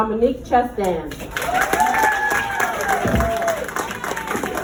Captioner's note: applause